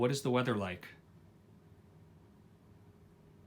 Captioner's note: TV speaks